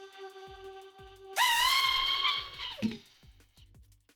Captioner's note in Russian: звук мотора